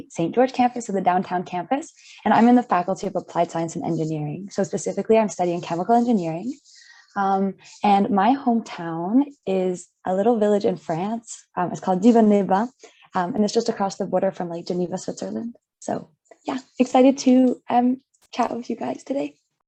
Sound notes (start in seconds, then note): 12.0 speaks in French